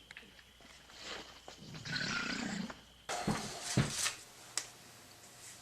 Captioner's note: crickets